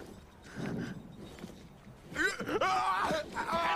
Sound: gasps and screams

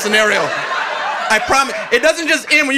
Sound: audience laughing

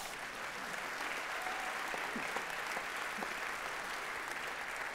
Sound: audience clapping

